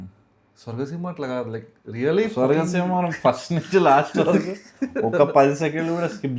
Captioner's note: laughs